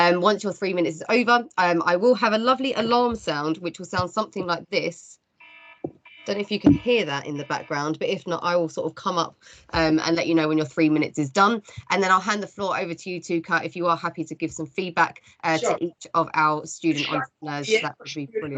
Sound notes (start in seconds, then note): 6.0 alarm sounds